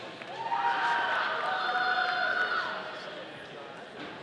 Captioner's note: audience cheering